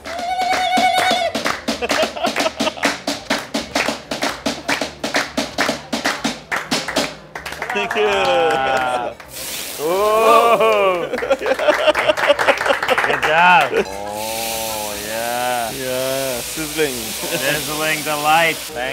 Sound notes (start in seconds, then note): 0.3 clapping and tapping; 8.8 fire sizzling; 10.4 clapping; 13.7 sizzling